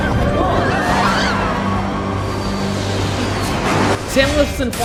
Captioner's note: people screaming